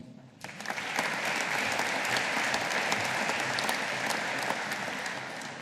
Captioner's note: audience applauding